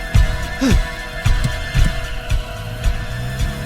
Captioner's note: gasping